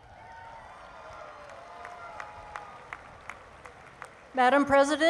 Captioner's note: cheering